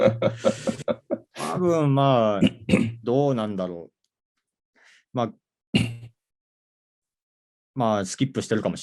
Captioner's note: laugh